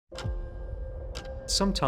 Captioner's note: gentle music; clock ticks